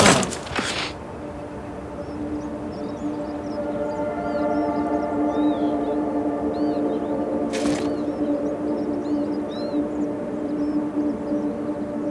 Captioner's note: birds chirping